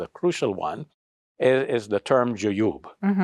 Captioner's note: speaks Arabic